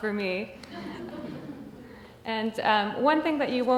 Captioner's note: audience chuckles